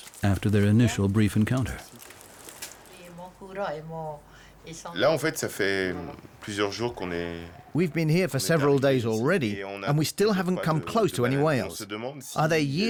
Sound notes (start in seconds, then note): 2.8 speaking French